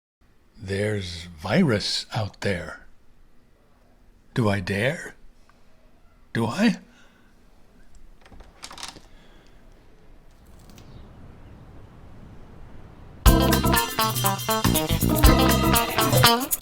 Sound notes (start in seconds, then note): 7.9 door latch; 11.6 theme music plays